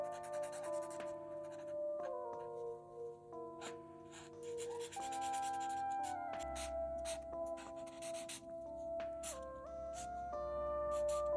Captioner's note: marker sounds